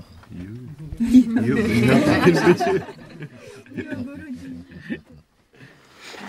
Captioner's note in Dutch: gelach